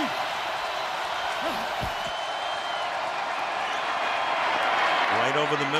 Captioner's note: crowd cheering